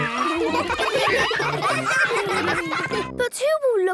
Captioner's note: ruckus